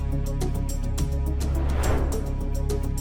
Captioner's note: suspenseful music continues; transition whooshing; suspenseful music continues